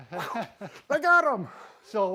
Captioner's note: chuckles